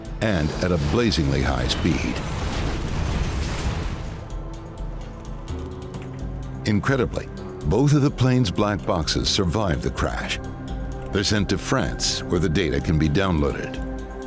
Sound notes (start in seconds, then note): 2.3 airplane crashing; 2.3 engine exploding; 5.5 sinister music; 14.1 sinister music